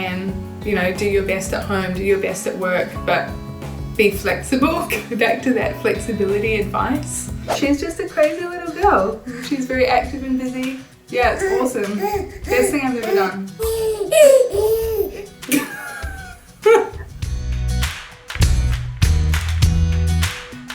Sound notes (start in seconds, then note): 13.4 baby cooing; 15.6 laughing; 17.7 upbeat music